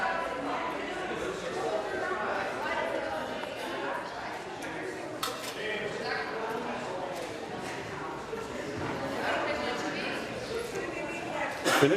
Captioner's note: conversation din